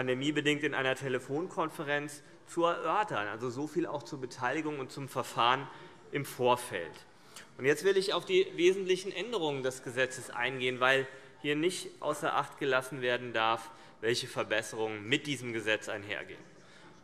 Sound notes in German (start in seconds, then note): none